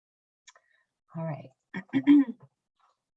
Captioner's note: clears throat